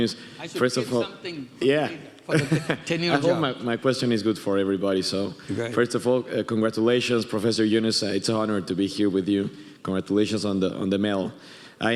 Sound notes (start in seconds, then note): 2.3 chuckles